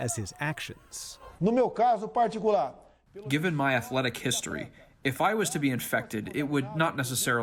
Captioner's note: through translator